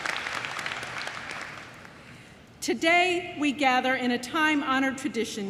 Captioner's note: applause